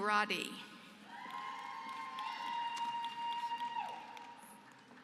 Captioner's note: applause